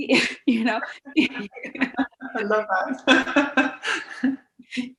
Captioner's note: laughs